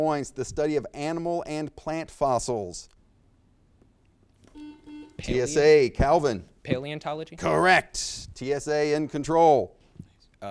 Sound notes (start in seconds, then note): 4.5 buzzer beeps